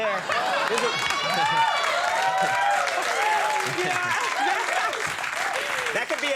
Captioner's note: Serena laughing, audience cheering